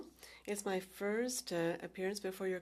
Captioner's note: speaking French